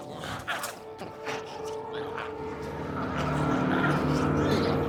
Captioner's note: glowzies growling